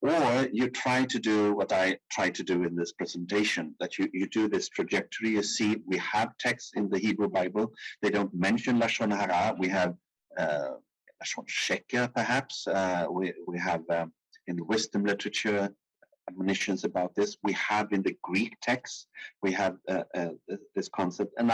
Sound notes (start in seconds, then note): 8.6 speaking in foreign language